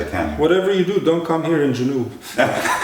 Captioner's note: laughter